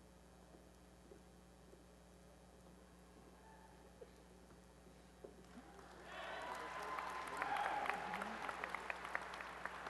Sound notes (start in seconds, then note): 5.7 applause